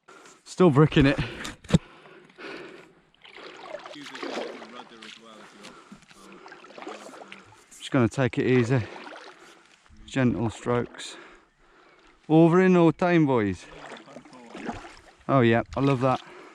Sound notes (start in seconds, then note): 12.7 welsh accent